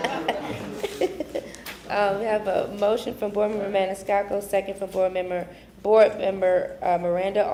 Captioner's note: laughter